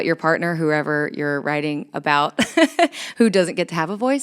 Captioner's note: chuckles